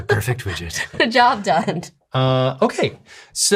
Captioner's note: laughing